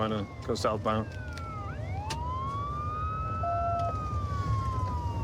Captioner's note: sirens wailing